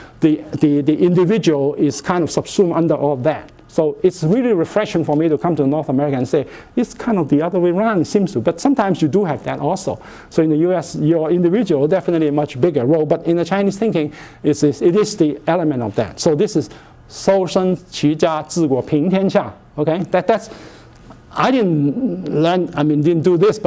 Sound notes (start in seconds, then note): 17.0 speaking Chinese